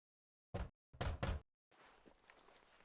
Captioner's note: knocking